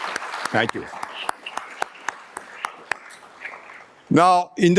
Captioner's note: audience applauding